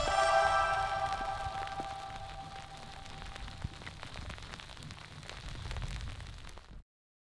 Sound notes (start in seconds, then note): 0.0 freezing rain